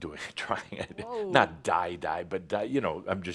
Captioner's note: Adamus chuckles